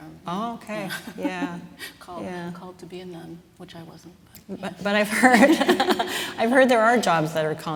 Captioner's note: laughs; laughing